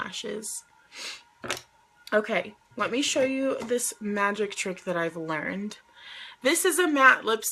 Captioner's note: sniffs